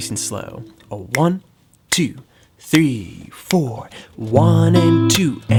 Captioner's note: fingers snapping; chords ringing